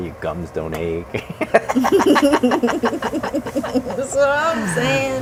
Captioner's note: cackling